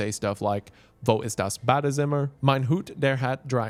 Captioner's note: in German